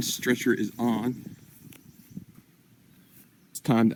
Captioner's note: birds chirping